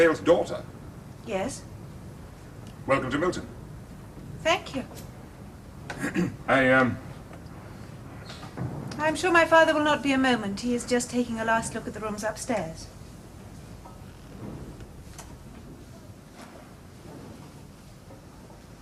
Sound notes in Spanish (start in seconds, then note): 5.9 Se aclara la garganta